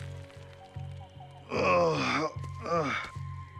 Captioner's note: yelling; groaning; footsteps approaching